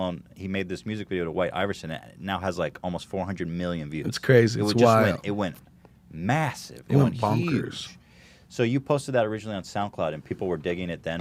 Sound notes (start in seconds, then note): none